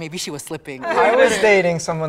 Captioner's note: group laughs